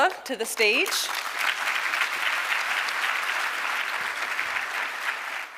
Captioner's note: audience applauding